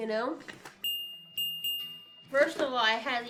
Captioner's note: bells chime